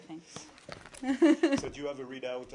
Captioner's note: laughter